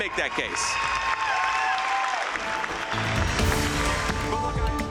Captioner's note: audience cheering